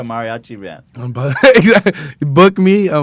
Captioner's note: laughs